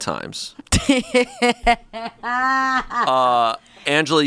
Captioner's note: laughs